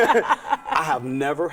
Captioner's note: laughing